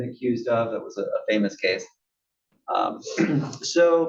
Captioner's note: cough